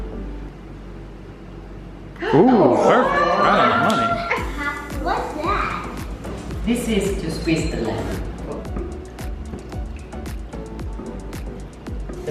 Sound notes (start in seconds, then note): 2.7 gasping and cheering